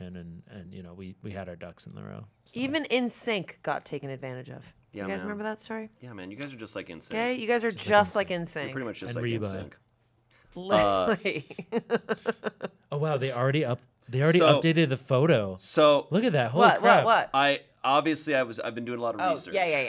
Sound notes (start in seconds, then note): 10.7 chuckling